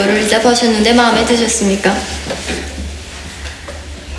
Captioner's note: foreign Language